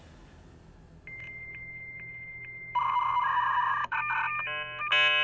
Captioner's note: beeping